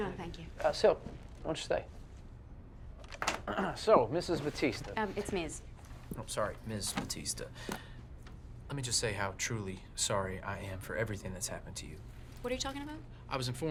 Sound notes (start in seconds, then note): 3.4 Tommy clears his throat